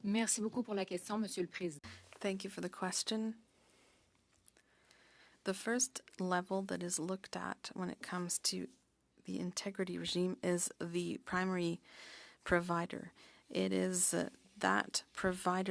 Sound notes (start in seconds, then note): 9.1 speaking french